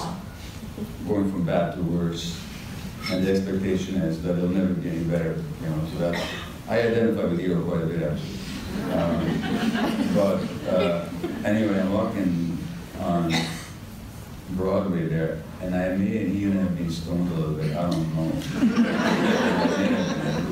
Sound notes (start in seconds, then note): 8.5 audience chuckles; 16.0 audience laughter